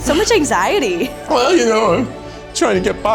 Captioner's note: in puppet voice